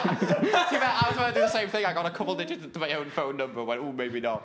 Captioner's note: laughing